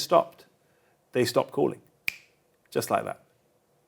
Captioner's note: snaps fingers